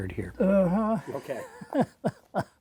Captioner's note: chuckles